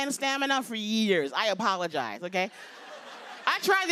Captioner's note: laughter